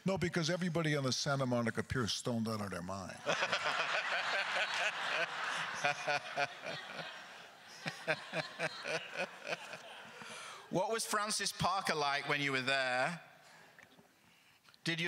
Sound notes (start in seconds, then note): 4.4 crowd laughter; 6.1 laughs; 6.1 laughter continues